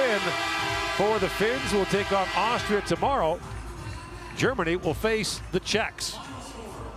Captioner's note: horn sounding